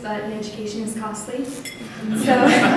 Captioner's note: laughter